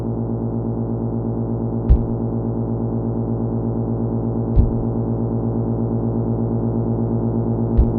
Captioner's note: electric whirring